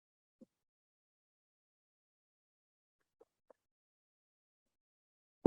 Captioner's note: silence